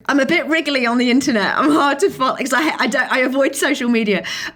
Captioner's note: laughing